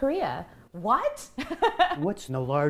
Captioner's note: laughter